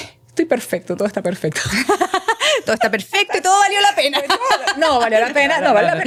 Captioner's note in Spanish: risas